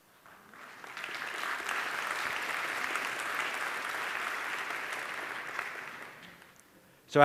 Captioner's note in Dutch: Applaus